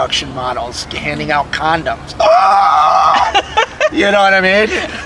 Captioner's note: laughing; shriek